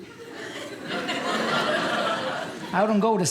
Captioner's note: audience laughing